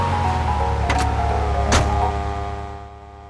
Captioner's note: gunshot